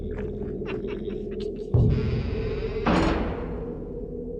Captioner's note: weasels snicker; doors creak and slam shut